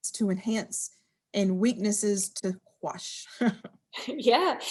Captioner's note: laughs